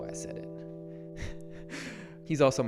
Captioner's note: laughs to self